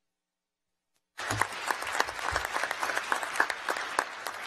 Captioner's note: applause